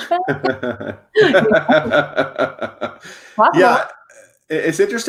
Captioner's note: laughs loudly